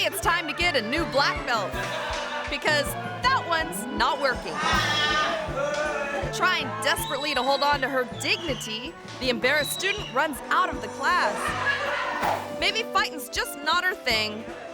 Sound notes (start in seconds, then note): 4.4 students laughing